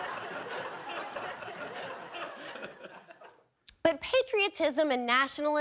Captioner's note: audience laughing